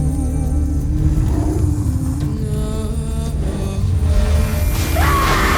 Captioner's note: echoing screech; powerful roar-whoosh